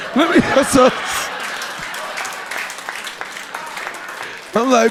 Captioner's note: audience laughing